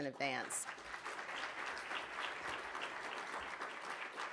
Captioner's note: audience applauding